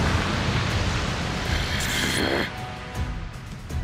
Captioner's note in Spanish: Gruñe airadamente